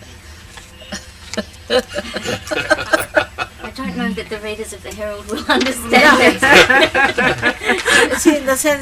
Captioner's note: laughter